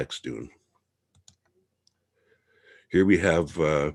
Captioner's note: mouse clicking